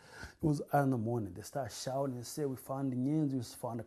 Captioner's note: non-english